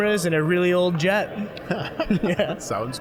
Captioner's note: both laughing